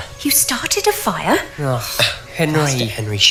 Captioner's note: groans